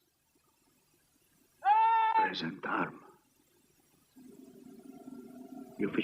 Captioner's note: man yelling commands